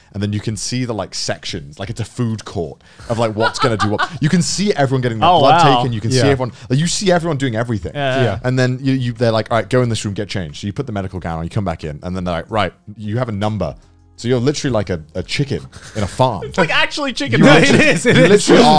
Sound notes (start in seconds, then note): 3.2 laughing; 17.4 laughing